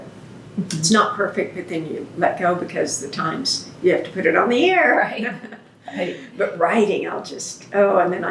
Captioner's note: laughs